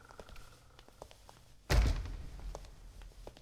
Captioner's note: door creaks and shuts